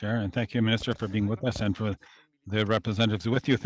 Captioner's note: speaking French